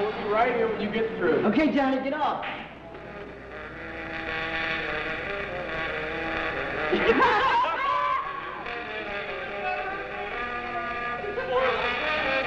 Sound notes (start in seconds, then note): 6.8 guys laughing